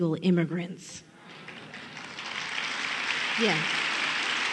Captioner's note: applause